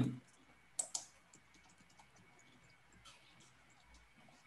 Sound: mouse clicking

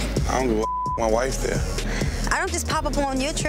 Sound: beep

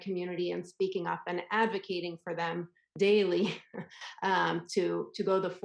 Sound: laughs

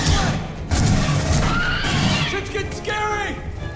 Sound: gunshots

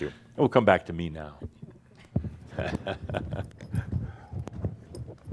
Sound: Adamus chuckles

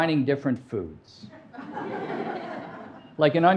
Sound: audience laughing

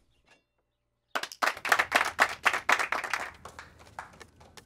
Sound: clapping

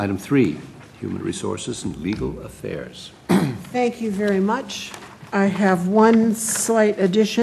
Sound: cough

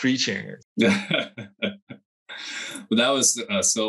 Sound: laughs

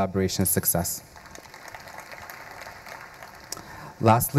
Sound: audience applauding

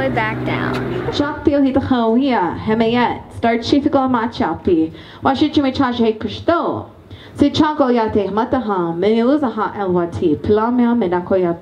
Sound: native American language

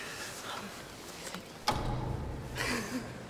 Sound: whispering; lights switch off audibly; laughing

